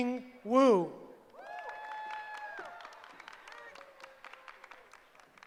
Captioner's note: cheering